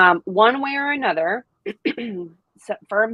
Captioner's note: clears throat